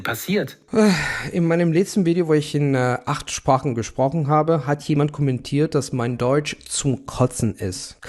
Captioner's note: speaking German